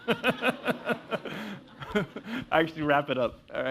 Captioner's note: laugh